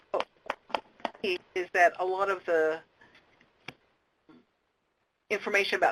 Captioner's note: audio cuts out